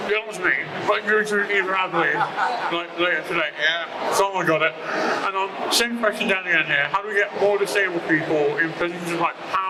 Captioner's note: laughter